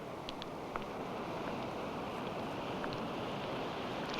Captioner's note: waves crashing